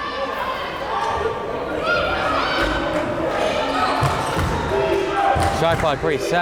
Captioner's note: crowd chanting defense